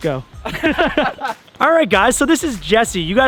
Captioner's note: laughter